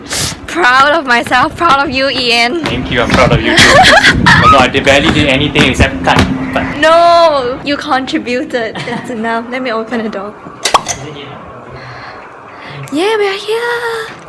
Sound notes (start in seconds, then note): 3.4 laughs